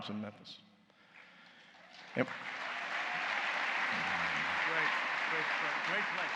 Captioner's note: applause